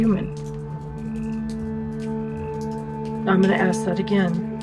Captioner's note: frog croaking